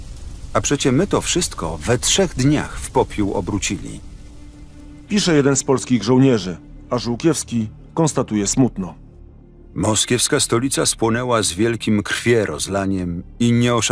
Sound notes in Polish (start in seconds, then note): 8.9 Lektor